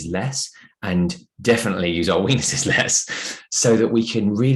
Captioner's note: chuckles